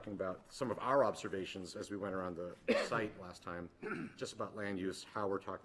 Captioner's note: clears throat